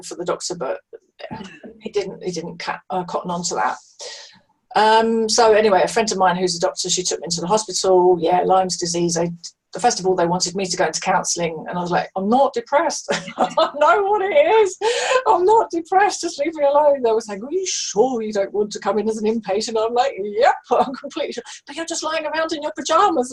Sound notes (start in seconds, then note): 13.1 laughing